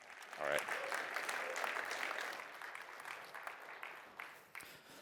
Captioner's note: applause